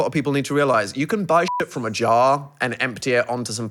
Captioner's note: beep